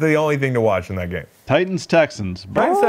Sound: squawks

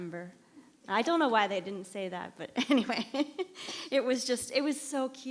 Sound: laughs

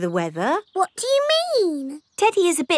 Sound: in normal voice

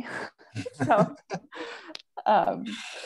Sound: chuckles

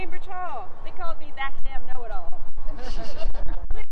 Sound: laughter

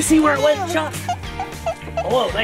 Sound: Chuck squeaking

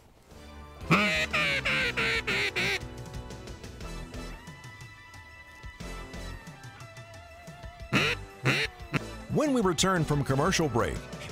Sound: voiceover

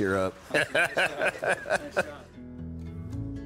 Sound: laughter

